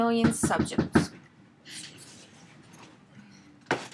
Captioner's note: knocks the door